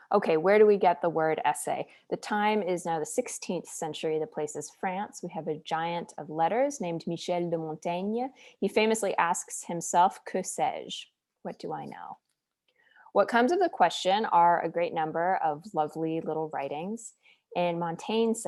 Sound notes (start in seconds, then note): 10.2 speaking french